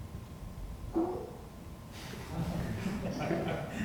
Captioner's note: laughter